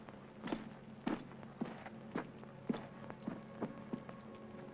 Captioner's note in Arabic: خطوات تغادر; موسيقى حزينة